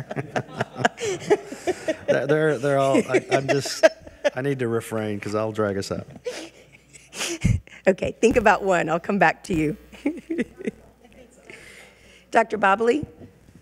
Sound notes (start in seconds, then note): 0.0 laughing; 6.2 laughing; 10.7 speaks faintly